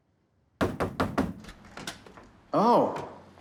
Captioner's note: knocking